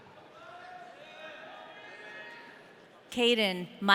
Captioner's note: audience cheering